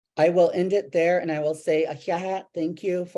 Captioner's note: speaking in Native language